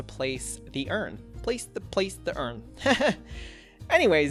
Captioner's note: laughs